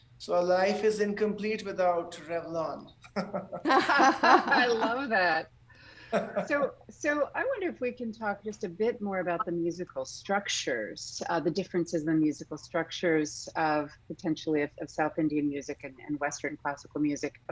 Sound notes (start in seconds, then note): 3.1 convivial laughter